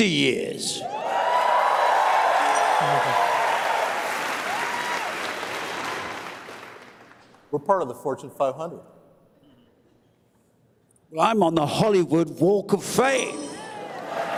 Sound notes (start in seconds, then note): 3.5 cheers and applause